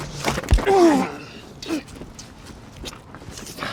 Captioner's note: men grunting